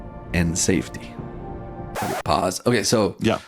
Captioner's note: record scratch